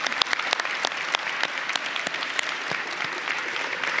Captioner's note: applause